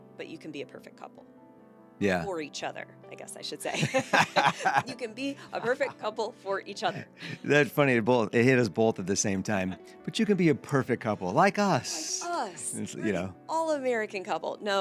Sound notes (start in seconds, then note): 3.7 both laughing